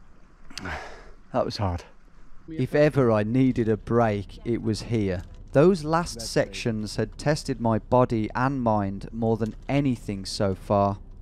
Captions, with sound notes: - That was hard. - [Voiceover] If ever I needed a break, it was here. Those last sections had tested my body and mind more than anything so far.